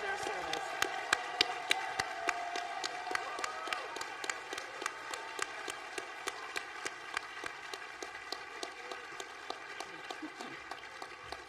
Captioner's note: applause